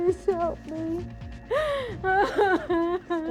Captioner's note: crying